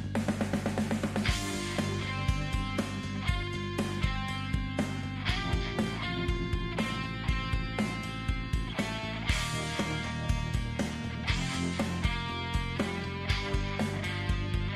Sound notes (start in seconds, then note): none